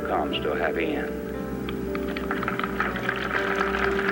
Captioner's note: applause